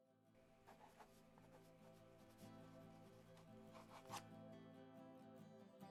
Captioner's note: sound of pencil scratching across paper